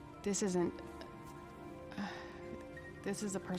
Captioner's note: sighs